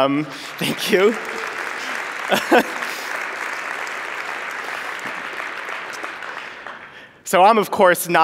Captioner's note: applause